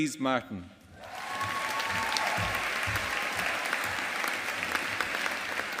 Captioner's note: audience applauding